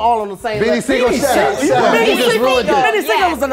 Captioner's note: overlapping chatter